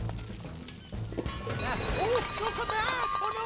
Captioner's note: clunking